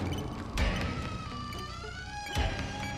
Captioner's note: door creaks